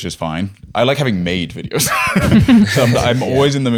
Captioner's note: laughter